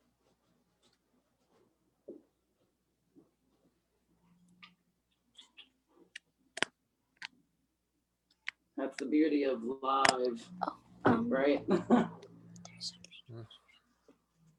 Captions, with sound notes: That's the beauty of live, right? [chuckles]